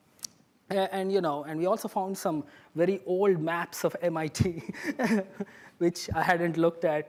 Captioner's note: laughs